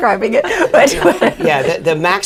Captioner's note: laughter